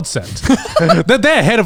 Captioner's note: laughing